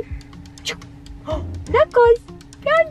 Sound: baby talk

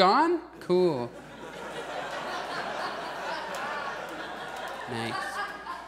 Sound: audience laughs

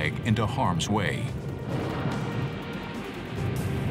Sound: explosion

